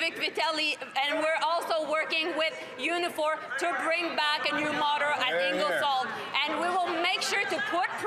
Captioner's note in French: voix de l'interprète